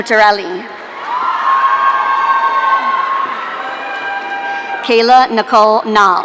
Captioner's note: audience cheering